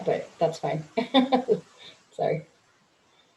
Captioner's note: chuckles